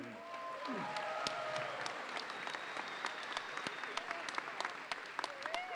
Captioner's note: audience applauds and cheers